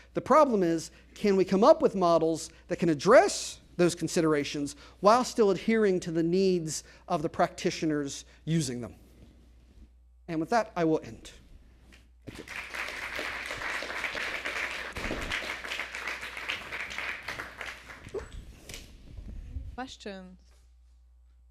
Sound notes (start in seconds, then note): 12.2 applause